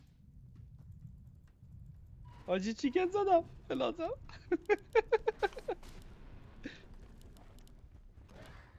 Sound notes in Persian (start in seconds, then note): 4.3 خنده